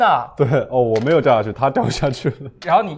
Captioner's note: laughs